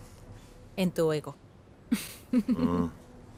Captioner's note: risas